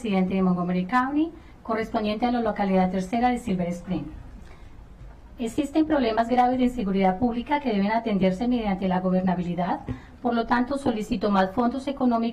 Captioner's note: speaking spanish